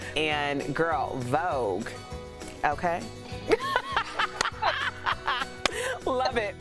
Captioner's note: laughter